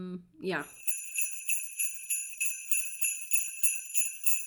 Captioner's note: sleigh bells